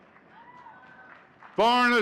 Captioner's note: audience cheering and clapping